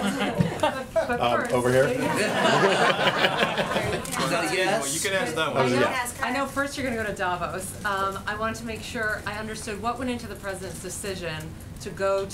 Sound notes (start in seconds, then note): 2.1 laughter